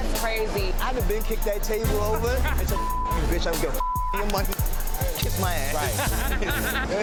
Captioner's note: beeps